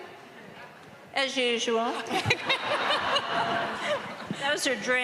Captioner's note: all laughing